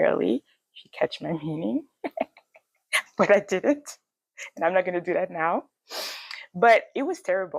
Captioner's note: laughs